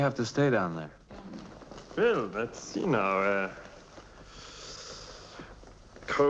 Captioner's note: inhaling